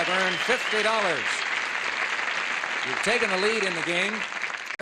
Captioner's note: applause